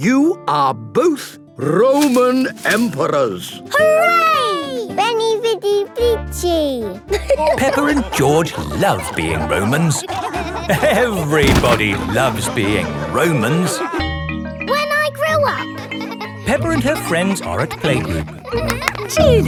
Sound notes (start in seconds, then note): 6.2 all laughing